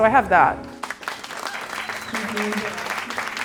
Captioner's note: clapping